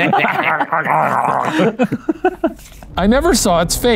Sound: growls like a dog

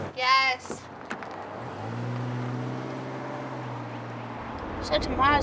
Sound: car running

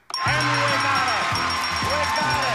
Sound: upbeat music; audience clapping

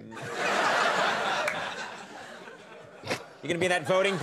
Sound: audience laughing

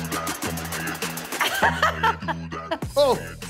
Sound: laughs

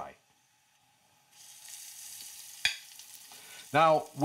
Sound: braciole sizzles in pan

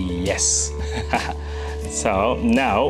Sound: laughing

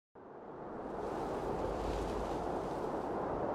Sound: wind rushing

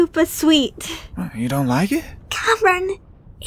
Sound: whisper

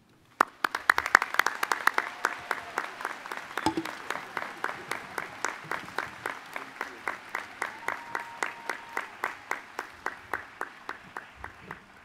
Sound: applause

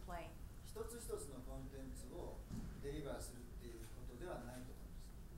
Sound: speaking in foreign language

